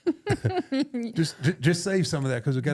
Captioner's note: chuckling